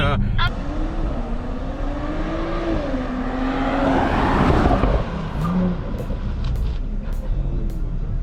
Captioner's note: accelerating then suddenly braking